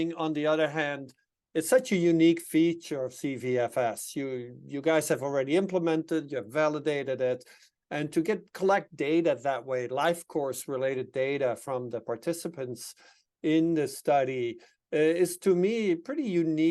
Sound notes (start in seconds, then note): none